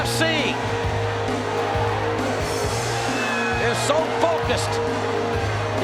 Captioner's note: crowd cheers; energetic rock music